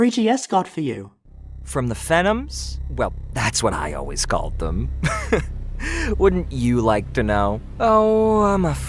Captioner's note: laughs